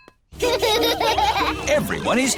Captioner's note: children laughing